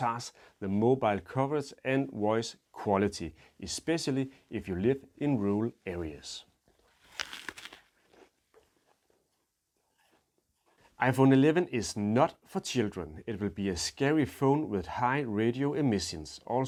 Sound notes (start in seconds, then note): 6.7 crunches apple